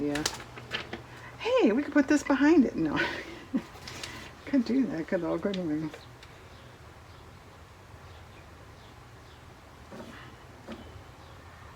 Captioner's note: laughs